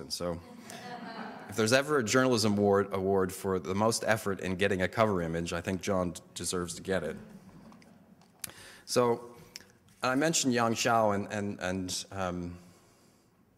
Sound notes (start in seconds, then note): 10.8 foreign language